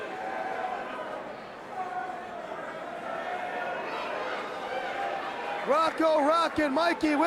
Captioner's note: crowd chatter